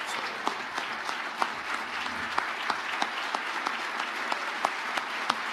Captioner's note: audience applauding